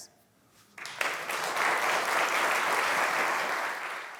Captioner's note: applause